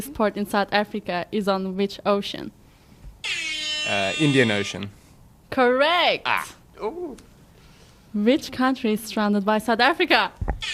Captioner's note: horn sound